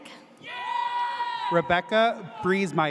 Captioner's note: audience cheers